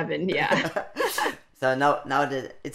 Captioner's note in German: Beide Frauen lachen